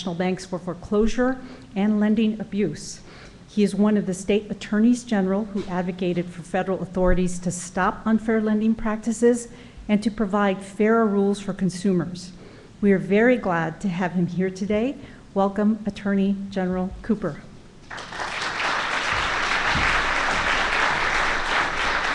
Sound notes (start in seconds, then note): 17.8 applause